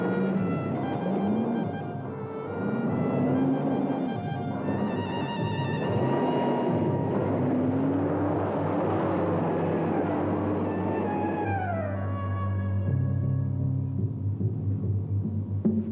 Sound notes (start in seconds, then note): 6.2 engine roaring; 13.0 pensive music